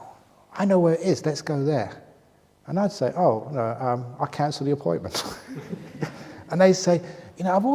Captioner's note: laughs